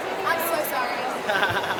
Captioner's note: voiceover; man laughs